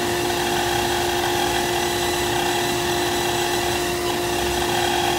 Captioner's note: machine continues whirring